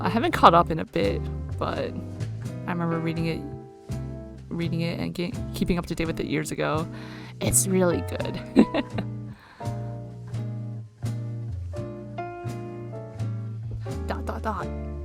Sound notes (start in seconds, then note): 8.4 laughs